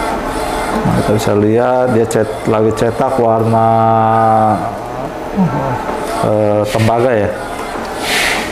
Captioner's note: printer machine sound